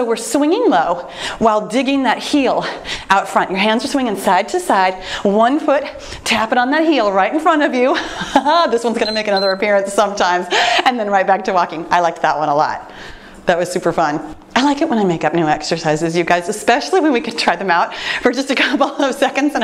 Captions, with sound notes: So we're swinging low while digging that heel out front, your hands are swinging side-to-side, one foot tap it on that heel right in front of you, (chuckling) this one's gonna make- (timer beeps) Another appearance sometimes, and then right back to walking, I like that one a lot. That was super fun. I like it when I make up new exercises, you guys, especially when we can try them out for just a couple of seconds